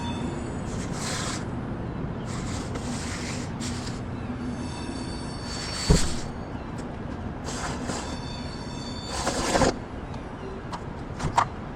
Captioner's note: stone + metal grating noises